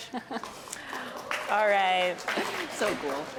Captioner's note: applause